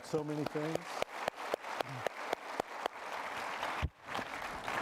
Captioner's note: applause